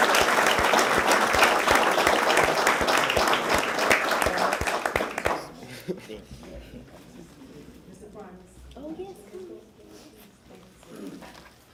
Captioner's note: applause